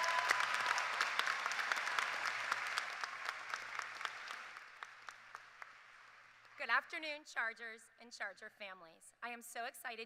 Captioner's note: appuse